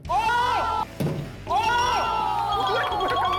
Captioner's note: scream